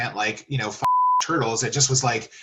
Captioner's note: beep